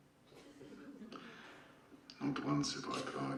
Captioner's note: laugh